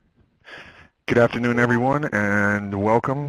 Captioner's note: voiceover